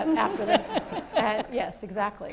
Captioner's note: audience laughs